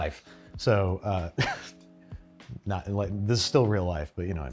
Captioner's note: laughs